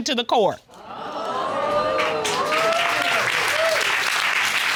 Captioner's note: audience exclaims